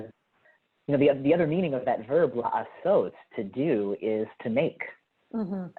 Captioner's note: hebrew